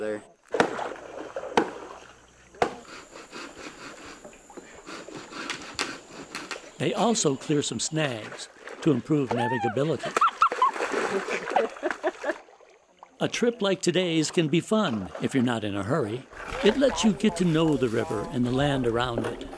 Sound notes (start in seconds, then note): 1.5 ax hitting wood; 4.6 sawing; 9.4 laughing and giggling